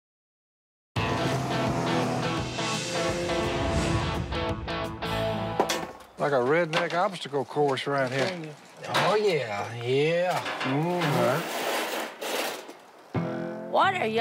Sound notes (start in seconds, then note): 1.0 lively music; 2.1 wood clatters